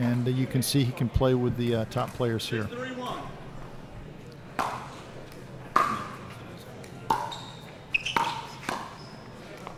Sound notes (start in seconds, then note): 5.7 ball clacking